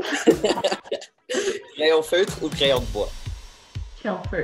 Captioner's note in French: rires